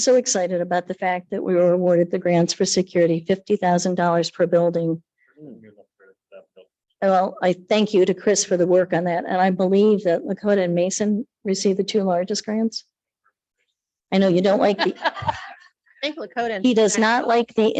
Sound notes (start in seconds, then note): 5.3 speaking softly; 14.7 jovial laughter